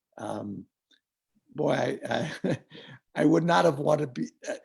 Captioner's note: chuckles